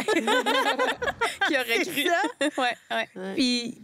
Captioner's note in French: rires